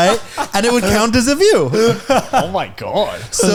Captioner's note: laughing